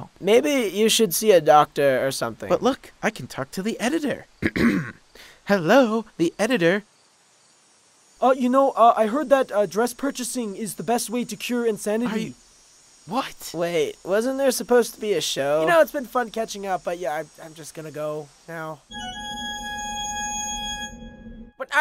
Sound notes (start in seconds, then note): 2.4 normal voice; 4.4 clears throat; 18.9 pipe organ jingle